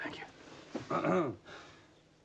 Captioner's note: clears throat